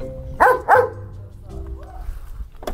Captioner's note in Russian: лай собаки